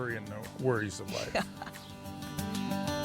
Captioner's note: chuckle